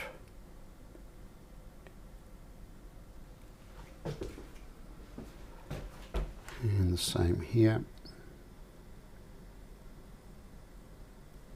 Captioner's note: silence